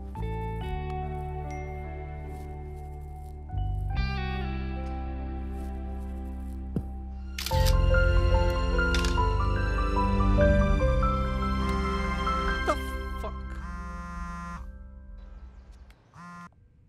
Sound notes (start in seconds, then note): 7.3 clicks; 13.4 cell phone vibrating